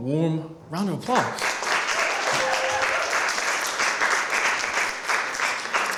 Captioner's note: applause